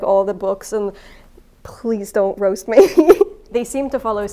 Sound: laughing

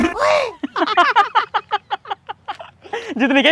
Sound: laughing

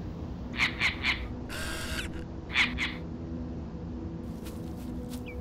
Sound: mechanical squawking

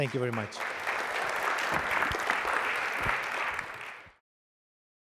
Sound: applause

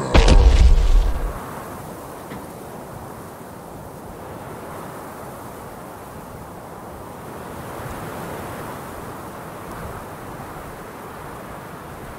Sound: whooshing noises

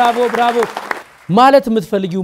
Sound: applause

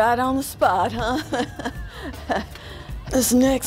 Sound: laughs/gasps

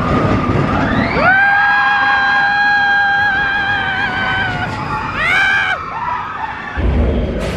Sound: track rattling; screaming excitedly; guests screaming excitedly

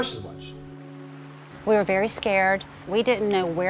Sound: heavy rain

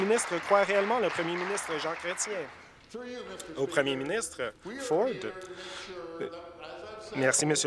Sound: applause

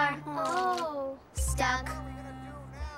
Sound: groans

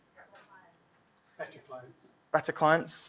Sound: chattering

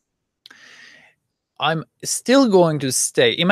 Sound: inhales deeply

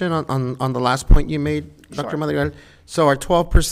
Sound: none

